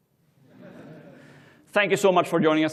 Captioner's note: laughter